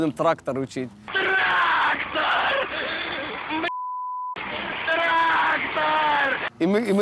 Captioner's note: terrible scream